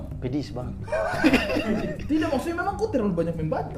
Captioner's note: chuckling